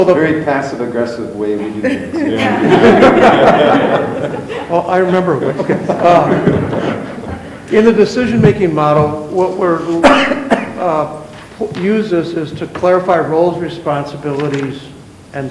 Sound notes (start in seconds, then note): 1.6 members laugh